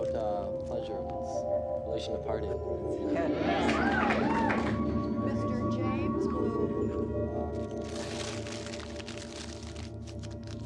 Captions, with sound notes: (crowd murmuring) (paper crinkling) - Lauren? - I wrote about my pom pom activities.